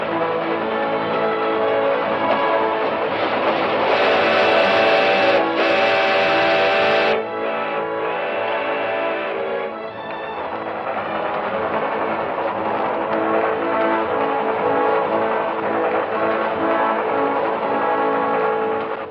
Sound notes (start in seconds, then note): 3.8 train horn blows